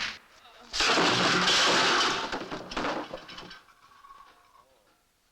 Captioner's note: clanging